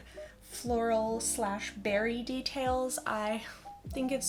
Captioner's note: none